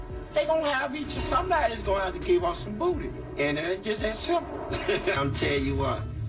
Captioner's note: laughs